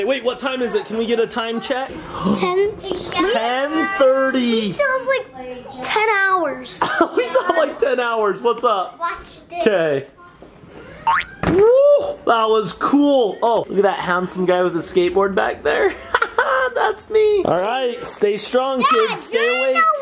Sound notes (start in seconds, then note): 15.9 laughs